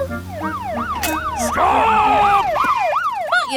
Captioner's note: siren wailing